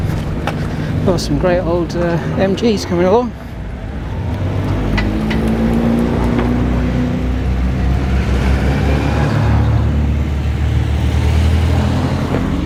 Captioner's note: sound of cars passing